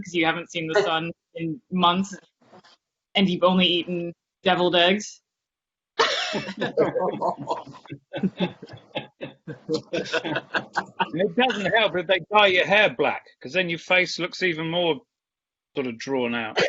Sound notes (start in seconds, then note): 6.0 laughter